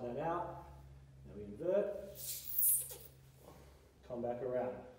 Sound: floor squeaks

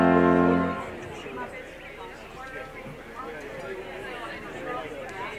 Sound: chattering and laughing

